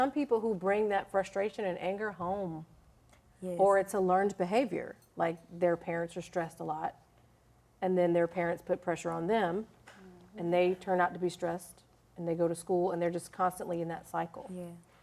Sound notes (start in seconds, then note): none